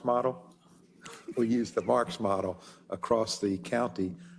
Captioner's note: laugh